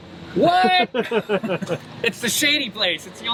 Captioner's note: laughing